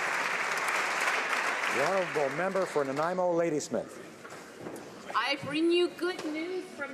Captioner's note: applause